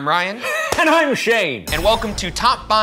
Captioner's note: laughing